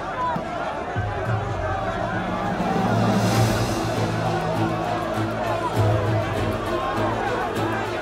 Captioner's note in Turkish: Kalabalık bağrışma sesleri